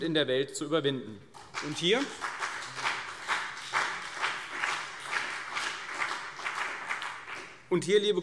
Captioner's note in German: Beifall CDU und BÜNDNIS 90/DIE GRÜNEN